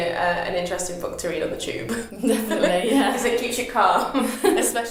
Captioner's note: both laugh